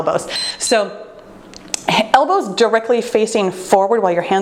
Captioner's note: timer beeps